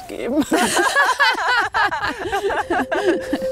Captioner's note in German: Sie lachen beide